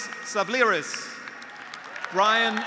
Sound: graduates applauding; graduates cheering

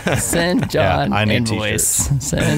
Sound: laughing

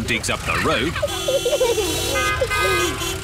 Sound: horns toot

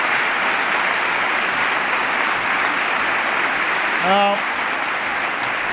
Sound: applause

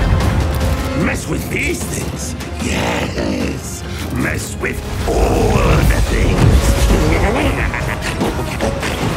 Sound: snickers

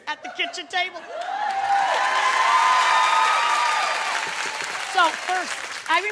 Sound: audience applauding

